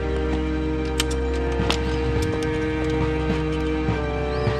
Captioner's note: periscope clinks